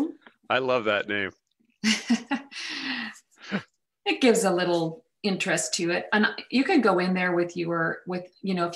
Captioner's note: chuckles